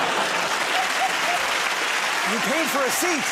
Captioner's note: laughter; applause